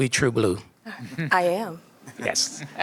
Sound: laughter

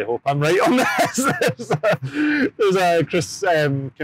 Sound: both laugh

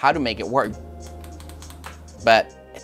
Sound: remote clicking

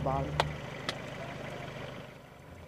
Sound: engine rumbling

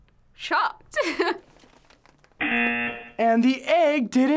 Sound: buzzer

